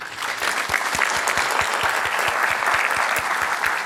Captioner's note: applause